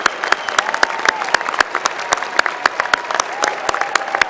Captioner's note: applause